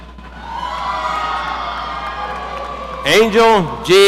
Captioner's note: audience cheering